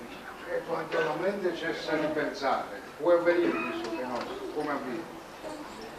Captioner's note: italian